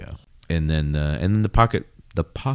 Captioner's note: uh